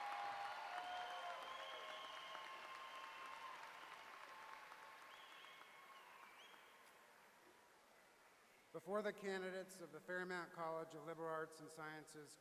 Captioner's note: applause